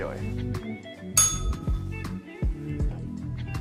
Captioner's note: bell rings